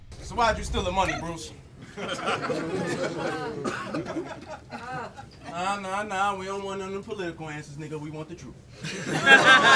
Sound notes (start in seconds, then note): 1.8 audience chuckles